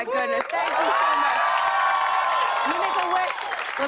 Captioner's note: cheers and applause